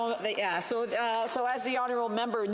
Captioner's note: off mic